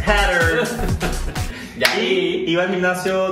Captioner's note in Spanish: risas